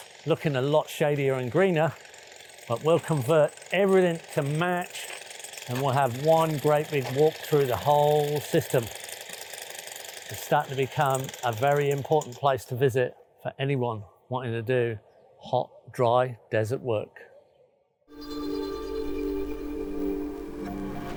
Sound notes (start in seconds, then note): 9.1 drill whirring; 18.1 gentle music